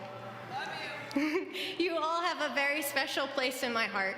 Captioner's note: laugh